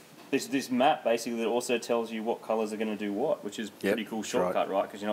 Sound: none

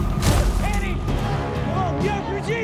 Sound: Annie thuds

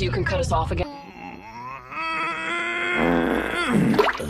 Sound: strained grunting, toilet sounds; laughing stupidly

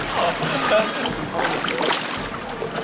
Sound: splash

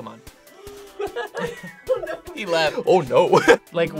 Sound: laughs

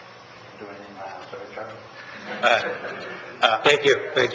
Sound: audience laughs

